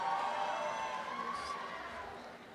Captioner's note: applause